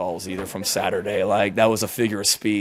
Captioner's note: reporters laughing